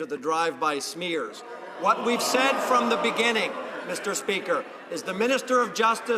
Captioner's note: some Applause